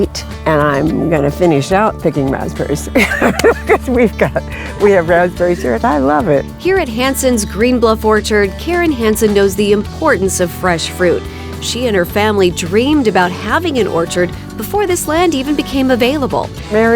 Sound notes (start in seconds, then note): 2.8 laughing